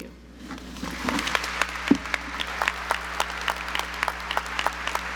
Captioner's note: audience applauds